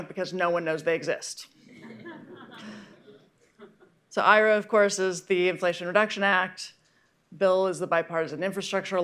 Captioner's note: laughter